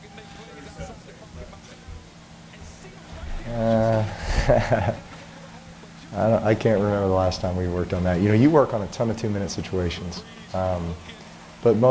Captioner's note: laughter